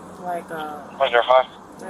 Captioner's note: radio chatter